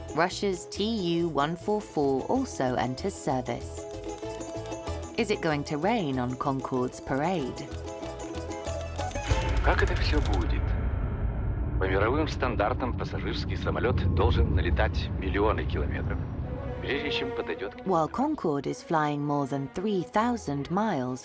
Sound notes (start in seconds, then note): 8.7 text clicking; 9.6 announcer speaking Russian